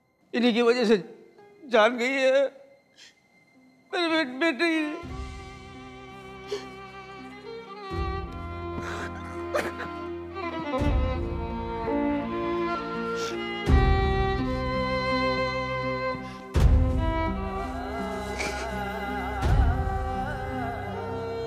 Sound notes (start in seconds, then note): 8.7 Sobbing